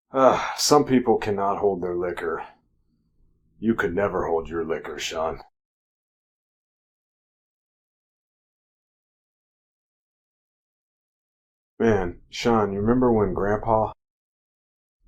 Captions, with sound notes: Ah, some people cannot hold their liquor. You could never hold your liquor, Sean. [silence] Man, Sean, you remember when grandpa